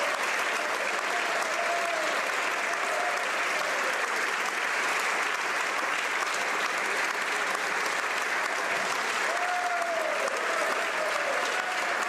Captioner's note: applause